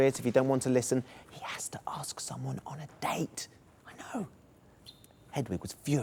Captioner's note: whispers; normal voice